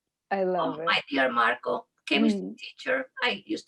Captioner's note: spanish